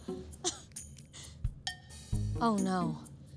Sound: chuckles

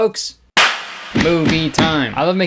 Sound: hands clapping

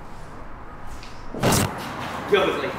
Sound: static

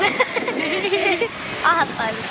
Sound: laughing

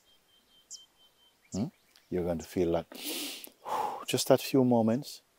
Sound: exhales

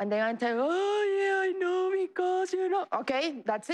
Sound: crying

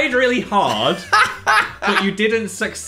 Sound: Dan laughs

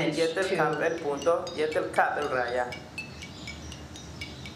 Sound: speaking yucatec

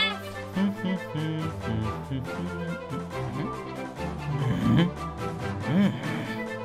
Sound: Muggle humming; Muggle harrumph

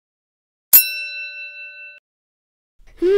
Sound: ding

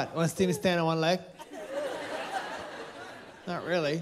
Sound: laughter

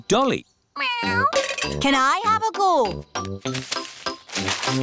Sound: meows

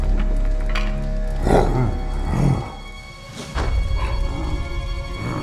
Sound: growling talking

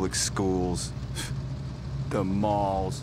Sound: snort

